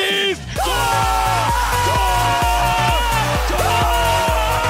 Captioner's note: screams